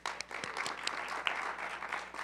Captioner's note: applause